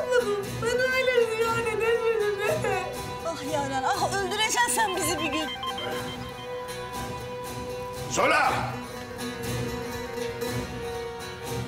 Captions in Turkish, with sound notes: (ağlıyor ve yalvarıyor) Ah Yaren ah! Öldüreceksin sen bizi bir gün! (telefon çalıyor) Söyle!